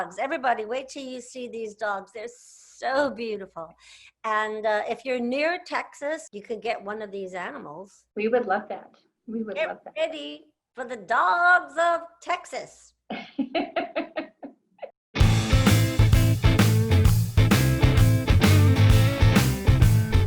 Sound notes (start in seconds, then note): 13.1 laughs; 15.1 upbeat music